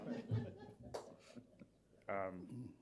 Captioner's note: laughter